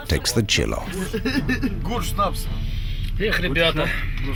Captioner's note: laughing, speaking Russian